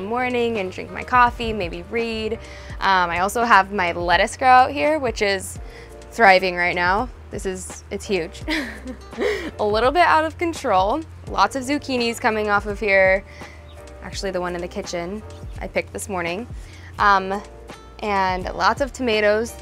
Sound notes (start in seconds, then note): 8.5 chuckles